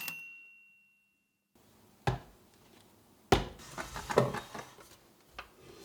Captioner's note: A typewriter clicks away, then dings; thud, thud, slide